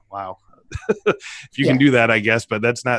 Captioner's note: laughing